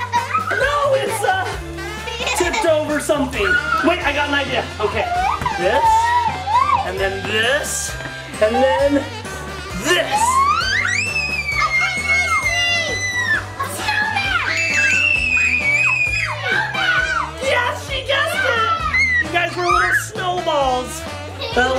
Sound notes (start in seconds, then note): 10.5 everyone screams; 14.7 kids scream